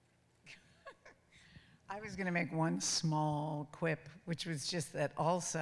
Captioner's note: chuckles